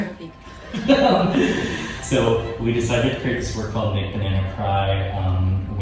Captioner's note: laughing